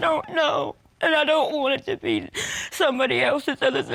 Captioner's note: sobs